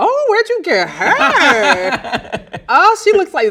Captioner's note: laugh loudly